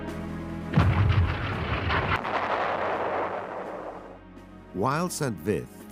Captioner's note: cannon firing; explosion